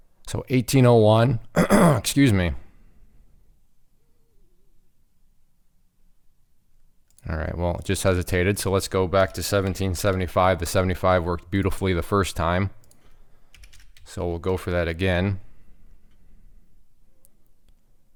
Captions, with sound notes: So 18.01. (throat clearing) Excuse me. All right, well just hesitated. So let's go back to 17.75. The 75 works beautifully the first time so we'll go for that again.